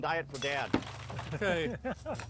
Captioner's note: laughing